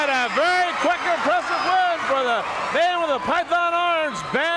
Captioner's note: crowd cheering